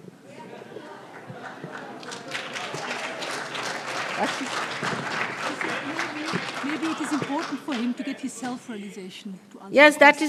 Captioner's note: applause